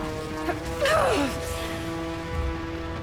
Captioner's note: grunting